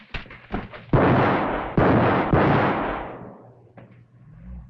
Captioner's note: gunshots booming